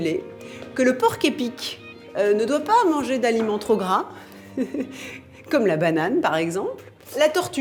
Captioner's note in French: rires